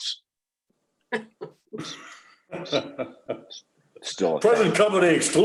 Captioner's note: participants chuckling